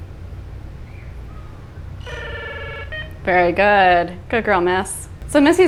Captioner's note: parrot makes ringing sound